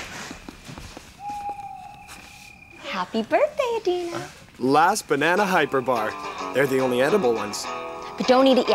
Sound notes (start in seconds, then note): 1.1 owl hoots